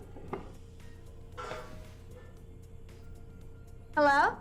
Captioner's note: clanging